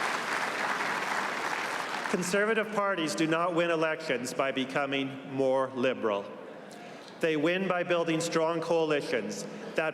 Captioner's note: applause